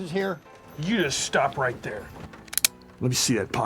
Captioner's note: gun cocking